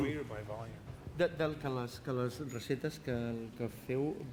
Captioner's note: non-english speech